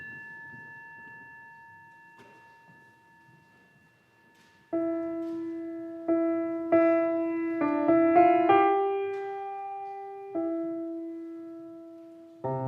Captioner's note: bell